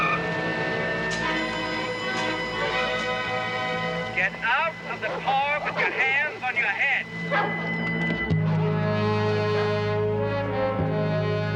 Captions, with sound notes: [suspenseful music] Get out of the car with your hands on your head. [dogs barking] [dangerous instrumental music]